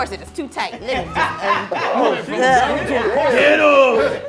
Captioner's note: laughing